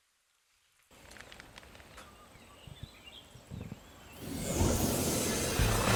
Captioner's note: candy packet rustles; birds chirping; air whooshes